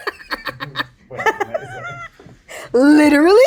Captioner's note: Raven-Symone laughing